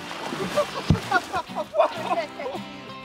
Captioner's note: laughter